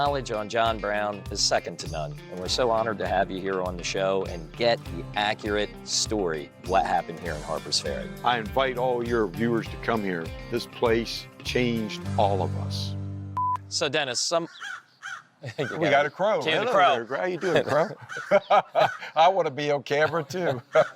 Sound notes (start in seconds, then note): 13.3 beeps; 14.4 crow squawks; 18.3 laughs